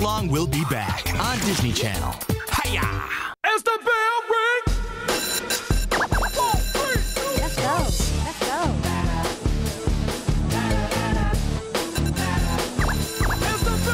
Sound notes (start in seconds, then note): 6.3 bell rings